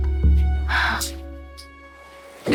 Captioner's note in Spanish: Suspiro